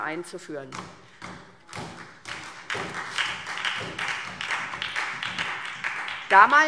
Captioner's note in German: Beifall SPD